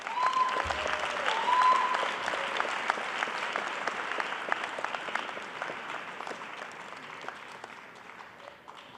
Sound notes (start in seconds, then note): 2.1 applause